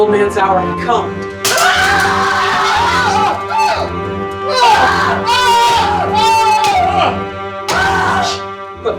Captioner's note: murderous bellow, pained cries, stabbing sounds